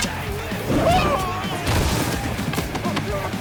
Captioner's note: Archer Yells